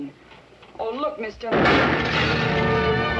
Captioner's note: gunshot; dramatic music plays